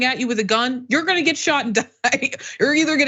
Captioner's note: laugh